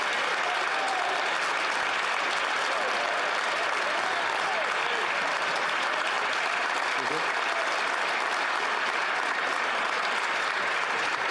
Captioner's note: some Applause